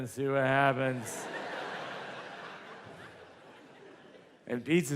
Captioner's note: audience laughs